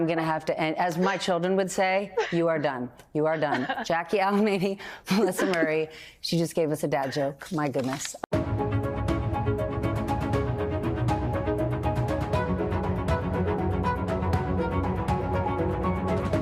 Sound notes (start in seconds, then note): 3.2 laughs